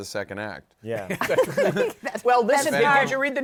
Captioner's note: laughter